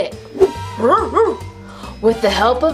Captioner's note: barking